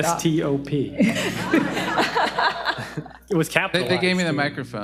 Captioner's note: audience laughing